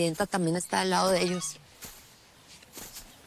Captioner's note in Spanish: Aviso de mensaje entrante